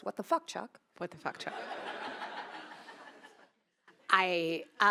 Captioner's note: attendees laughing